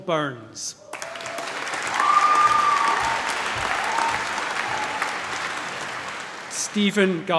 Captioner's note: applause